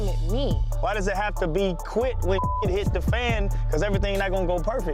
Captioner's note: beeps